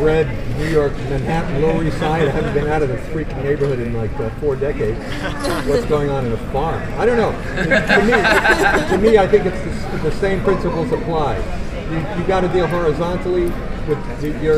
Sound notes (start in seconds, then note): 7.4 laughter